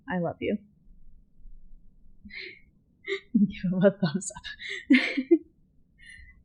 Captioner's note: giggling